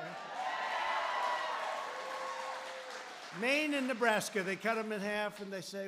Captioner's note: applause